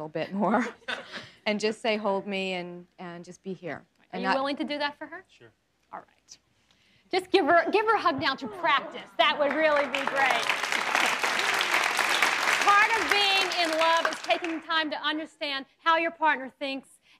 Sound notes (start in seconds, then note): 9.2 applauding